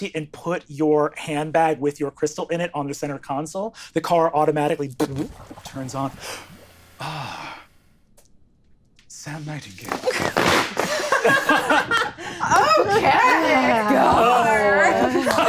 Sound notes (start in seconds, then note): 10.7 all laughing